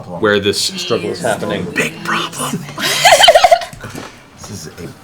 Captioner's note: whispered